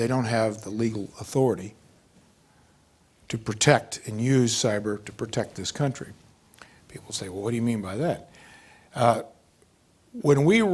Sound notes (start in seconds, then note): none